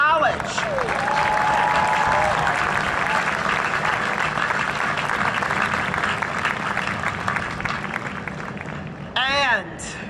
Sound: cheering and Applause

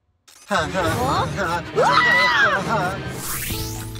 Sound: laughing; screaming

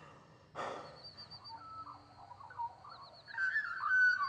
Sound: birds chirping

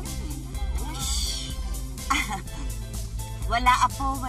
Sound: chuckles; shushes

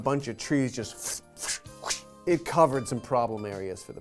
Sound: whipping noises

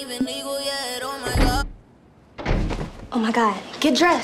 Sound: door thudding

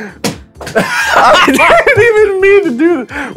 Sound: laughs

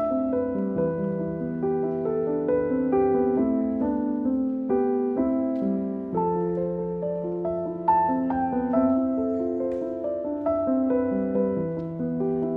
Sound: romantic Piano Music; soft background chatter

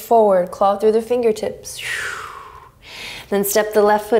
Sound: exhaling strongly

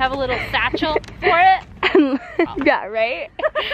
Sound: laughs

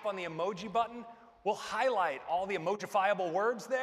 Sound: none

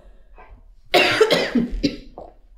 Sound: coughs

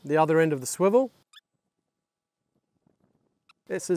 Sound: smol squeaks

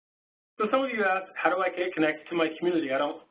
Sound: voiceover

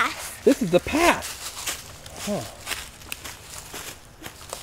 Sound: voiceover

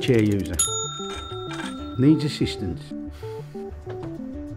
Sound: gauge dings

